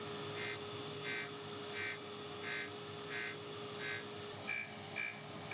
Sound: tool whirring and grinding

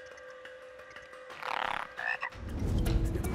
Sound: croaking

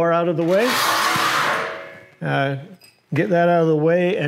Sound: scraping

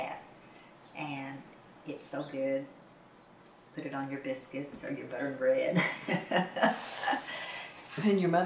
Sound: laughs

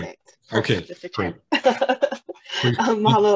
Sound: laughs

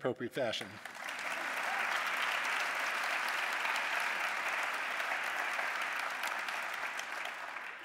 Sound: applause

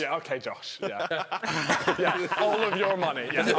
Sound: laughing

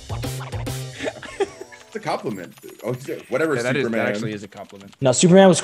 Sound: laugh

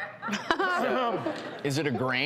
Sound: audience laughs

